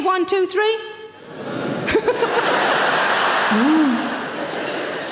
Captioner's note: audience huh